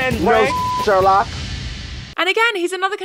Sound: beep

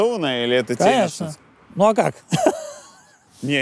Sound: laughs

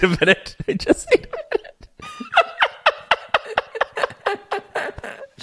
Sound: laughing

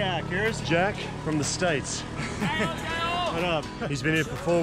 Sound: yelling in foreign language

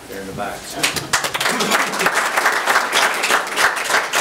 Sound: audience applauds

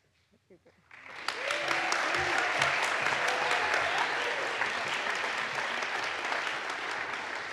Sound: audience applauds; audience cheers

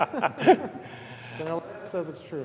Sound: laughter

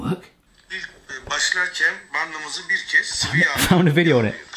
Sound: speaking in foreign language

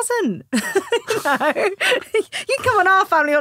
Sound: laughing

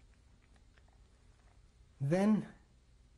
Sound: pauses for 6 seconds

